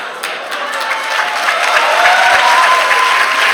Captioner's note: applause